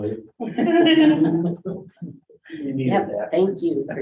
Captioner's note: all chuckling